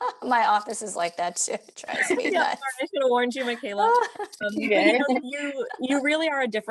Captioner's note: laughter